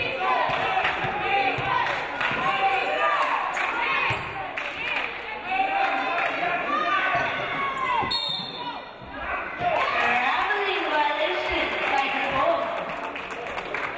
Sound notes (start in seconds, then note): 8.0 referee blows whistle